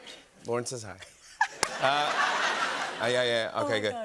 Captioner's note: laughter